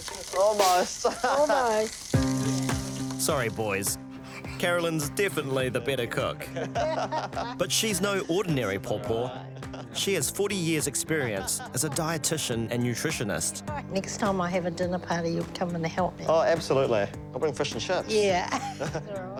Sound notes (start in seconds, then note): 3.9 groans; 6.4 laughs